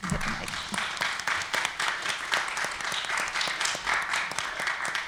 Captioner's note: applause